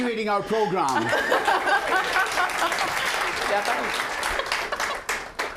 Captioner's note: both laughing; applause